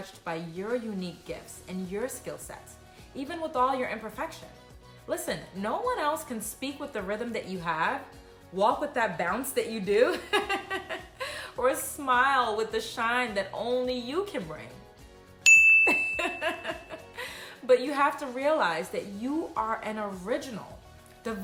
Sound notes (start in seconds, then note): 11.0 laughs; 15.4 twinkle sound; 15.8 laughs